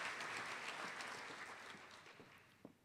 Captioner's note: applause